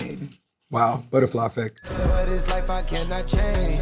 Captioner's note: bell dings